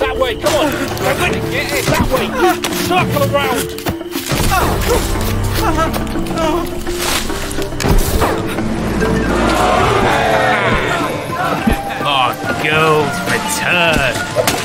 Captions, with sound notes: That way! Come on! circle around! [crashing, stumbling] [cheering] My girls return!